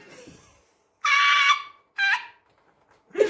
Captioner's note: dying of laughter